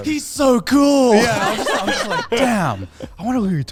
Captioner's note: laughs